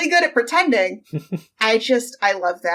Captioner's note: laughs